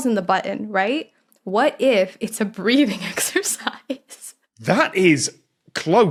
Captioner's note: cracks up